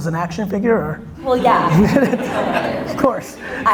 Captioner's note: audience laughter